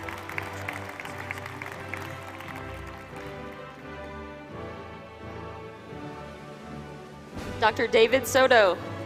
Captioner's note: applause